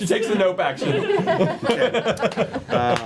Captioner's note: laughter